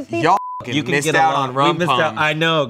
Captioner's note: beep